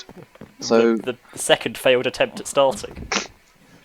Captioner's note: laughing